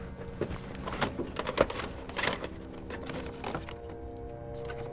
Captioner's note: tapes rattle